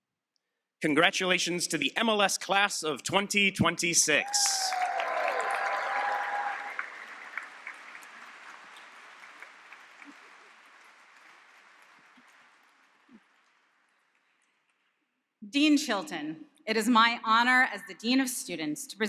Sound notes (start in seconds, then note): 4.5 applause and cheering